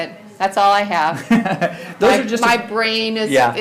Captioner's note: laughs